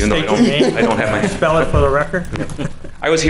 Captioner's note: chuckles